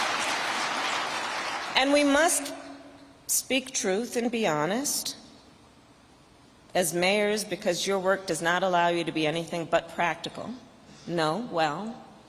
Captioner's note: applause